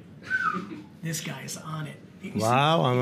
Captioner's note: whistles